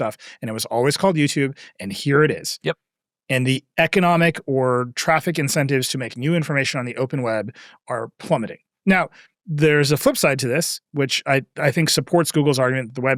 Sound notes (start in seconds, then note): none